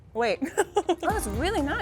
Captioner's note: laughing